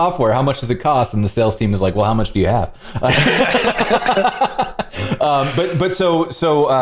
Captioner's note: laughter